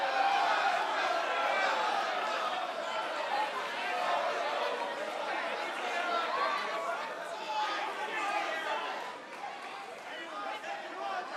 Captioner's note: crowd chatter